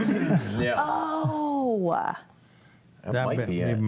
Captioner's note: panelists laughing